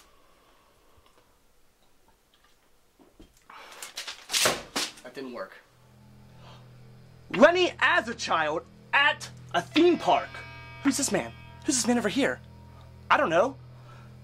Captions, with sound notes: [notebook hits floor] That didn't work. Lenny as a child at a theme park. Who's this man? Who's this man over here? I don't know